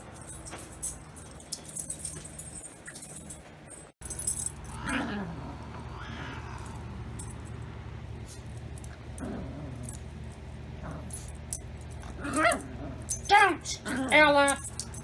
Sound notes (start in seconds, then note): 4.6 Caprice meows after Ella chews her